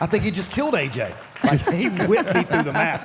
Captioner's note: Michelle and Mark laughs